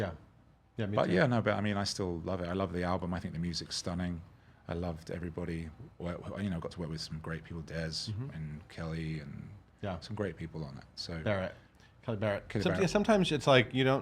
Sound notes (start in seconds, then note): none